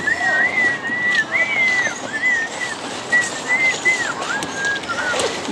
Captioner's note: whistling